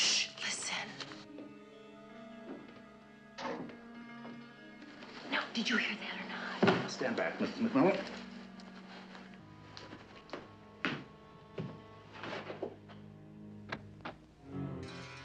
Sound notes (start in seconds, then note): 3.4 kapı kapanması